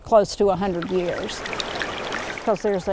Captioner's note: spring bubbling